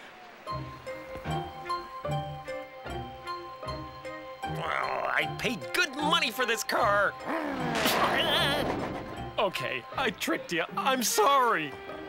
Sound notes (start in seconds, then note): 4.5 grumbles; 7.2 car snarls